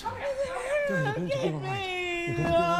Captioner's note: Aemma moaning